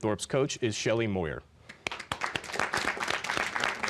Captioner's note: applause